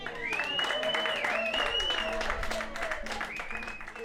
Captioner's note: applause